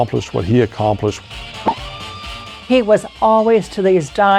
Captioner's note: pop!